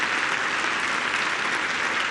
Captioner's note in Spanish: aplausos